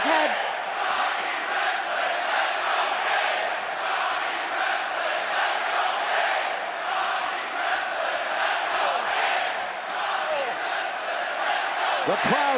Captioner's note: crowd cheering